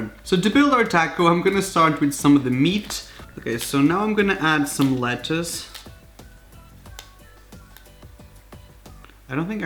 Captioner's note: crunchcrunchcrunch